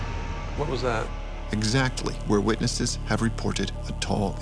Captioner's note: voiceover